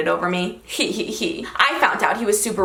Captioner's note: laughs